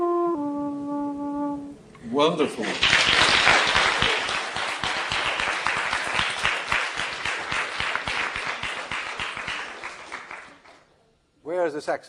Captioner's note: applause